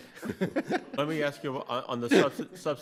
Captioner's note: judges laughing